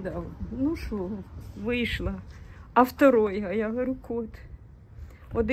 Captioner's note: in Russian